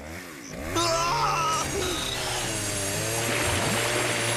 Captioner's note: screaming